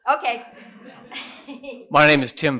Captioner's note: laughter